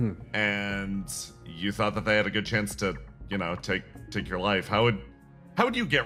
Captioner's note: none